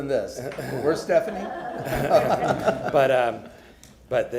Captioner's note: laughter